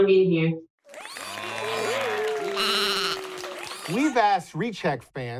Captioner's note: applaud